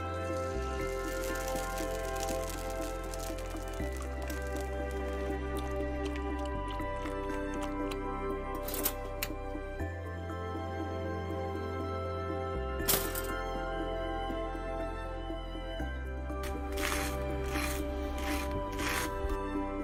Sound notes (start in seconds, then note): 0.0 eggs sizzle; 6.3 milk glugs; 13.0 toaster pops; 16.4 toast crunches